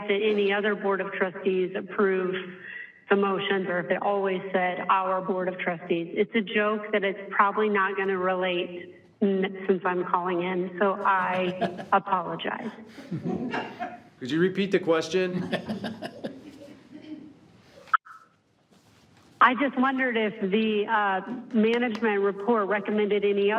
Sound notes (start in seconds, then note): 11.0 all laughs